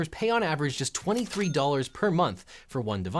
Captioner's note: bell ringing